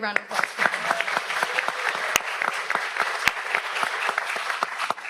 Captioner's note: audience applauds